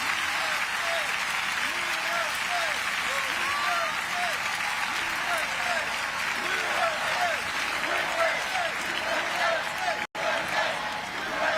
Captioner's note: crowd cheering